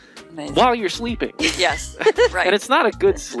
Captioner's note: laughing